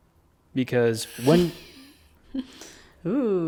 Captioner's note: laughs